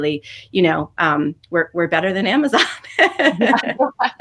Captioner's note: laughs